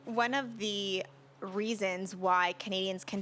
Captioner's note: speaking French